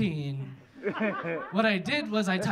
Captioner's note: audience laughing